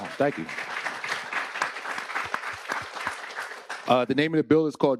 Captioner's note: attendees applauding